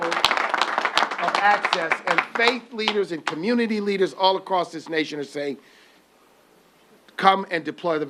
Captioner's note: applause